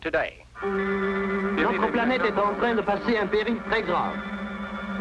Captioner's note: speaking foreign language